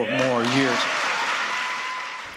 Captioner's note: cheering and applause